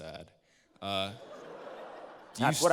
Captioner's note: laughter